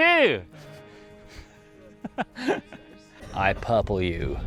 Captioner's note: laughter; 웃음